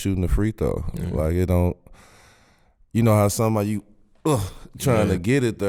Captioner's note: grunting